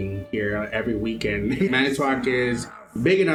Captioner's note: chuckles